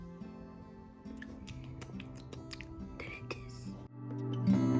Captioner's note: smaking lips